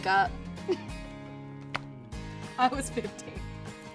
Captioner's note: chuckling